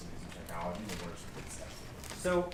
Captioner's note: speaks faintly